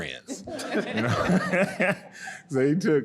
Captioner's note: audience laughing